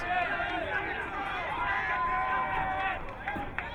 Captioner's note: crowd cheering